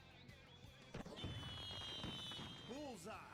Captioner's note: fireworks popping